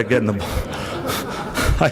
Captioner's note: laughter